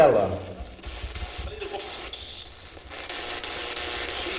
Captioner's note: static buzzing